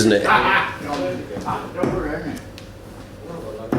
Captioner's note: laughing